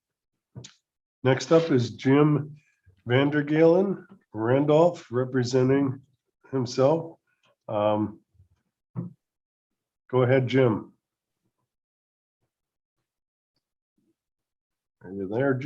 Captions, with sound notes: Next up is Jim Vander Galien, Randolph, representing himself. Um, go ahead, Jim. [Silence] Are you there Jim?